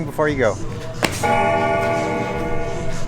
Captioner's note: bell ringing